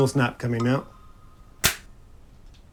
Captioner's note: snap